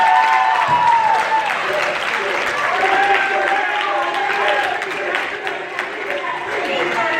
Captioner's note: crowd cheering